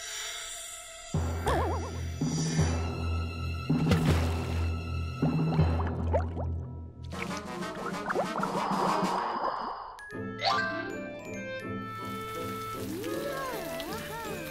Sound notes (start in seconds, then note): 5.4 bubbling; 13.4 exclamations